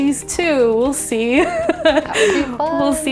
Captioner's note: laughing